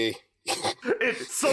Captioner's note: someone snickers